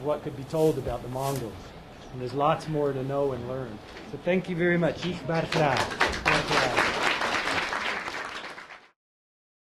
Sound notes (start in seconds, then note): 5.0 applause; 5.1 non-english speech